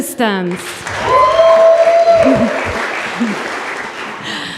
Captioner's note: audience applause